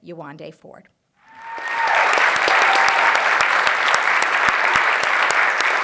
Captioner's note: cheers, applause